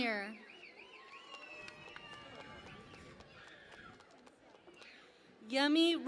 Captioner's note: cheering and Applause